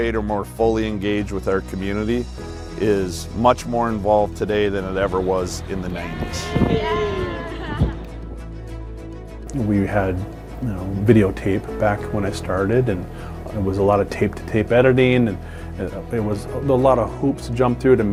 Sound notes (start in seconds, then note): 6.7 spectators cheering